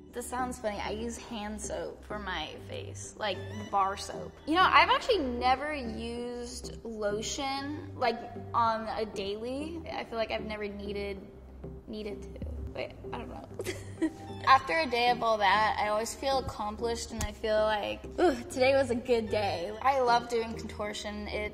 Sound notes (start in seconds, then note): 14.0 laughs